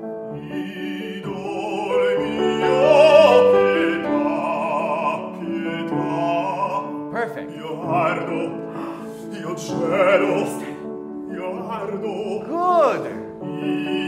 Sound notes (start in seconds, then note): 0.3 piano and singing in foreign language; 8.6 gasps; 11.4 piano and singing in foreign language